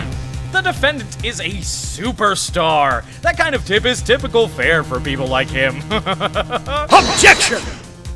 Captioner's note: awkward laugh